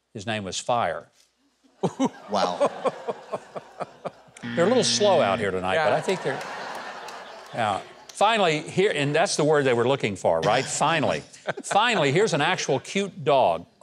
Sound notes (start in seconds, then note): 1.8 chuckles; 6.9 audience laughs